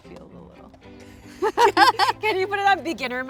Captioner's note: both laughing